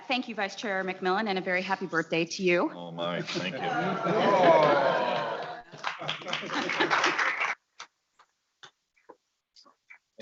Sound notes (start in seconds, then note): 6.1 audience applauding